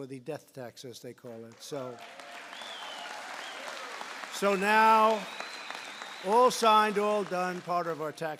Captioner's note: applause